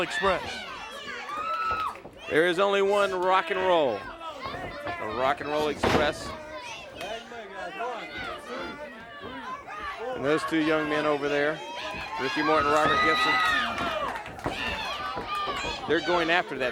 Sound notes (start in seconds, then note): 6.3 crowd chatter